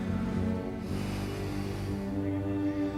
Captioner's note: sighs